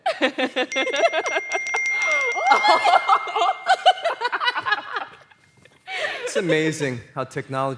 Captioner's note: laughter and repetitive dinging